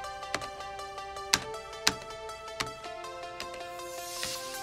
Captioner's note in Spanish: Pulsando el teclado